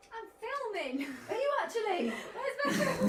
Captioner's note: laughter